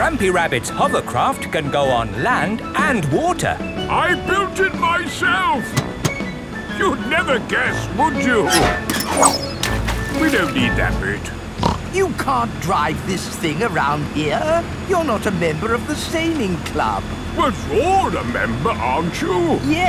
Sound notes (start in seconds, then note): 9.0 splashes; 11.6 snorts